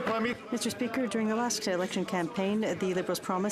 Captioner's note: some Applause